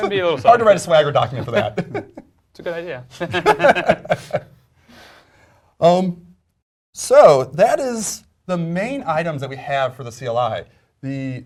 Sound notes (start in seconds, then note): 3.1 laugh